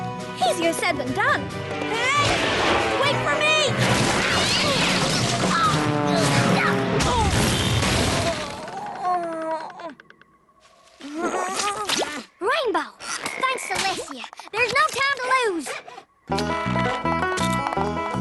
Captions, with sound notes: Easier said than done. Hey! Wait for me! [ Crash! Screech! Zoom! ] Oof! [ Groans ] Rainbow! Thank Celestia! There's no time to lose!